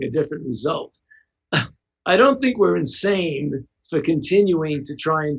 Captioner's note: chuckles